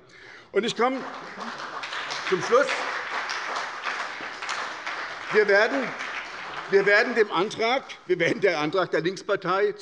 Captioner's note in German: Beifall bei der SDP